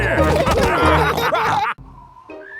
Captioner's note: all laughing